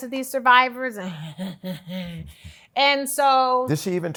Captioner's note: huffing